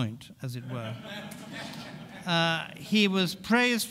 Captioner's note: audience laughing